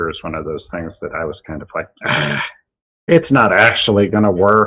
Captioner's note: frustration sound